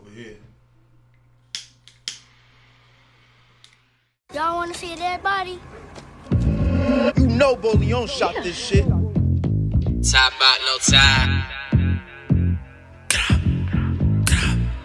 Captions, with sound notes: Business is booming over here. (lighter clicks) - Y'all wanna see a dead body? (upbeat music plays) - You know Borleone, shot this shit! - Yeah. - Talmbout no time. - Glat, glat